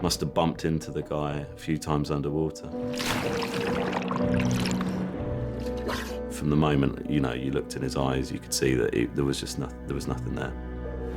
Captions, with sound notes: Must have bumped into the guy a few times underwater. (water splashing) (tense music continues) From the moment that, you know, you looked in his eyes, you could see that there was just nothing. There was nothing there.